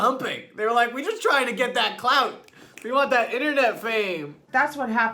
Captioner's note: snaps